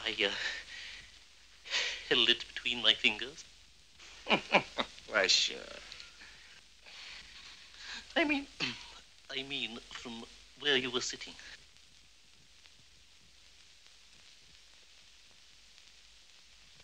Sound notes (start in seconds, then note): 8.2 voice cracking